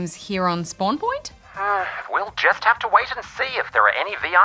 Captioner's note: sighs